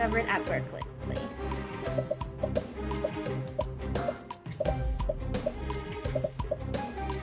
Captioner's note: upbeat music; popping